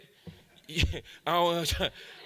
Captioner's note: audience laughs; laughs